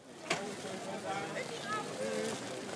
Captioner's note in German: Stimmengewirr